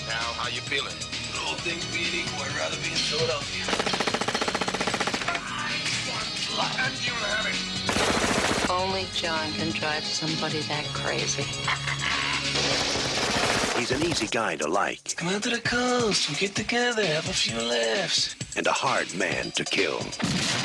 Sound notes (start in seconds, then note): 3.6 gun shots; 12.5 gun shots